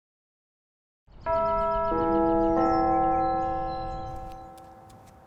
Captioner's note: bells